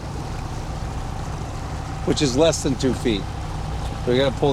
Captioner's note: water sloshing